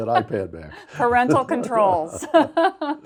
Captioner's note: laughs